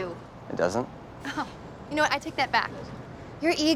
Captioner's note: chuckles